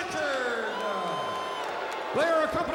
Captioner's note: crowd cheering